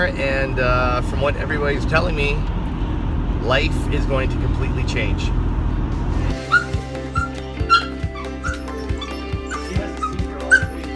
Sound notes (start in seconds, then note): 6.2 bright music; 7.0 dog whining